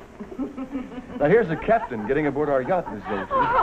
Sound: laughing

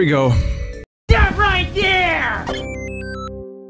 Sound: unknown speaker in a nasally voice

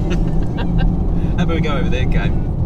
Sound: laughs

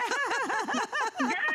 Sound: laughter

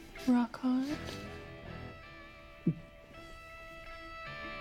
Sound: gulps

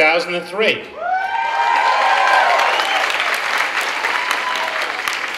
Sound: clapping and cheering

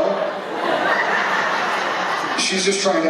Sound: laughter

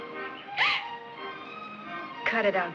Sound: Gwyneth gasps

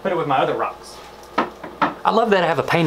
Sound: none

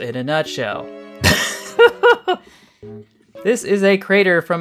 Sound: strained laughter

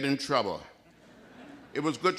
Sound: laughter

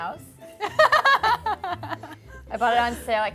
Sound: laughing

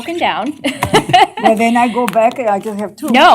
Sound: laughter

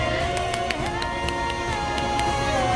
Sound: clapping

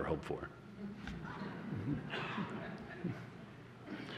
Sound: laughter

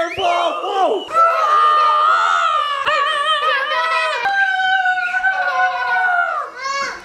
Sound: loud screaming; loud roaring and screaming; children laughing

